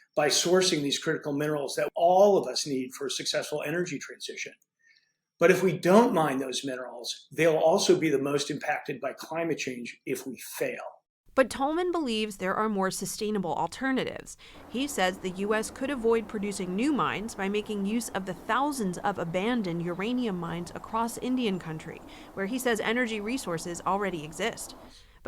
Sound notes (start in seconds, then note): 11.7 voice-over